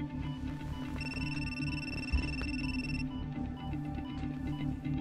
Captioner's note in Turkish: Telefon zili sesi